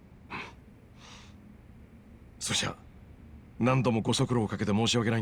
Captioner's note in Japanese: ため息